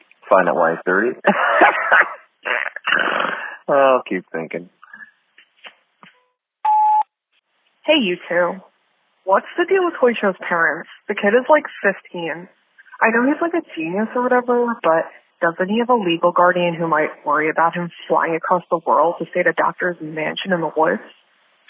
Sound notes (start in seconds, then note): 6.6 sfx: beep, new message